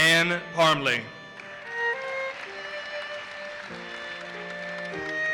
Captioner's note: audience applauses